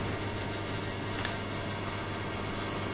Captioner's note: buzzing quietens a little